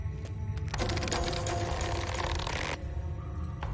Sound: rope stretching

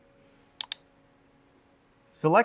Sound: mouse clicking

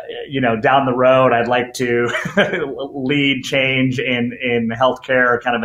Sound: laughs

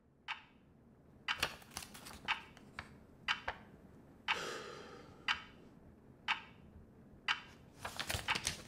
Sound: clock ticking; sigh; page turning

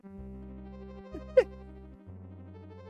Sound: chuckles

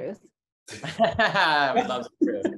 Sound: all laughing

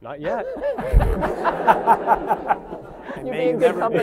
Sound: laughter

